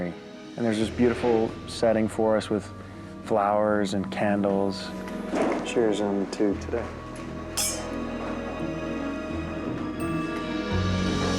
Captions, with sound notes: and there's this beautiful setting for us with flowers and candles. Cheers, and to today. (glasses clink) (suspenseful music)